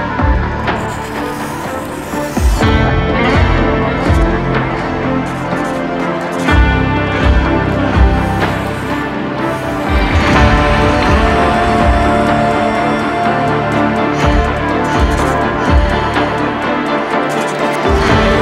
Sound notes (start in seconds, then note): 0.7 pencil scribbles; 5.8 pencil scribbles; 10.4 dramatic music concludes; 15.3 pencil scribbles